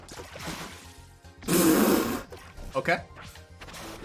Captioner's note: spit take